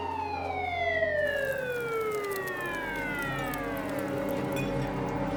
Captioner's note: police sirens wailing; tense pensive music; fire crackling